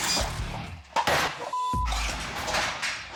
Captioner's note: thudding